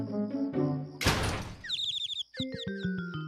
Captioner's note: birds chirping